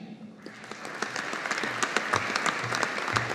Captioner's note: audience applauding